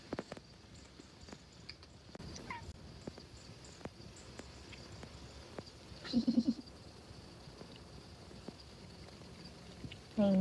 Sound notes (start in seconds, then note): 2.3 tiny meow; 6.0 laughing